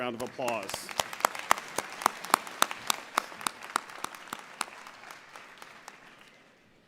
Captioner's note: applause